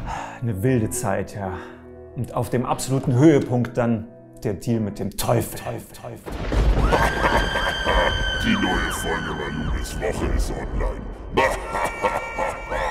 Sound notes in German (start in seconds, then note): 6.2 Donner, schaurige Musik, böses Lachen; 8.6 verzerrt; 11.3 Böses Lachen